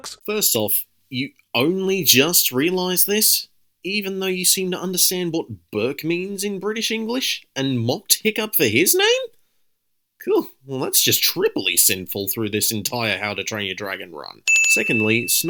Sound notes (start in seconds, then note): 9.9 scoffs